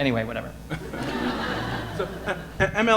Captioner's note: audience laughing